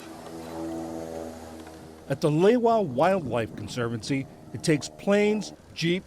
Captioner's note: voice-over